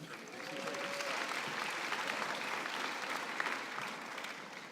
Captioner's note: cheering and applause